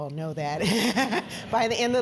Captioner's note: laugh